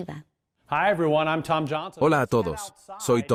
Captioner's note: Hablando idioma extranjero